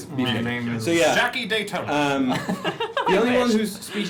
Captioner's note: laughter